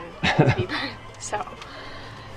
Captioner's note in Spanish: se ríe